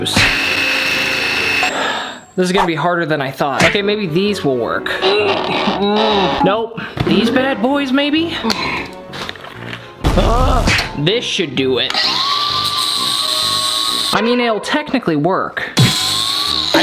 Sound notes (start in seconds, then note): 0.0 cutting noises; 8.4 sighs